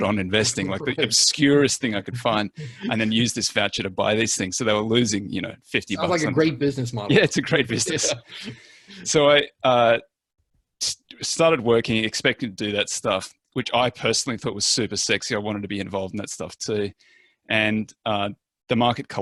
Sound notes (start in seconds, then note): 7.0 laughs